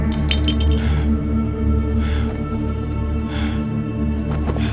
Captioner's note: blade clinking